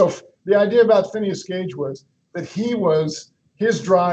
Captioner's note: chuckles